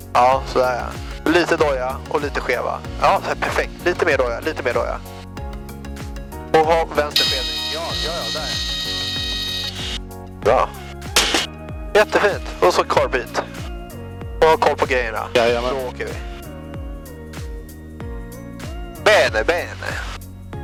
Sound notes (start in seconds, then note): 7.2 stall warning